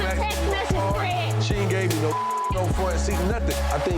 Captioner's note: beep